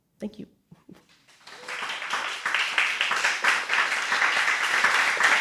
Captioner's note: audience applauding